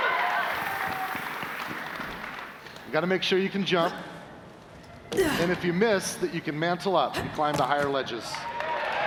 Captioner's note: cheers and applause